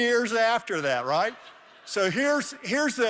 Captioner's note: laughter